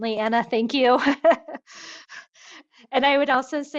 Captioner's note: laughs